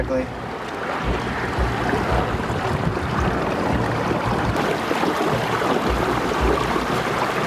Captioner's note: water sloshing; suspenseful music